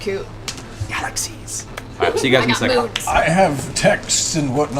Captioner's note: whispers